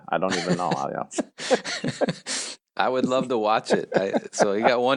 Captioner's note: laughs